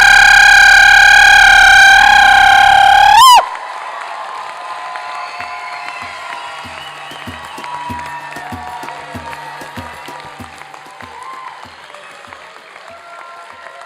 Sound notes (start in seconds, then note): 0.1 applause and cheering